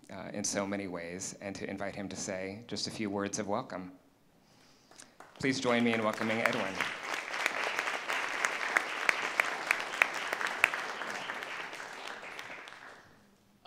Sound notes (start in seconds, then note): 10.7 applause